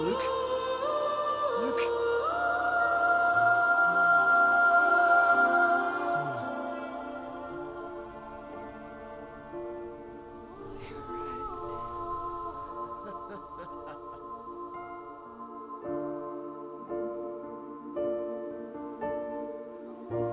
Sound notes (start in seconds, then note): 2.9 gentle music; 2.9 singer vocalizing; 12.8 Daniel laughs; 15.2 gentle music; 15.2 singer vocalizing